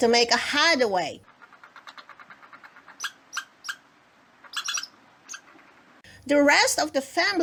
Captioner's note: sound of squirrel chattering